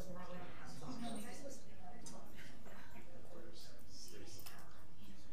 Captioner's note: people chattering